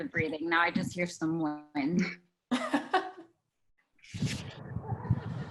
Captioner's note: laughs